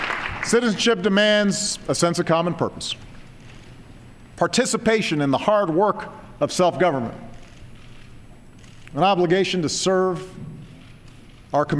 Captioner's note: applause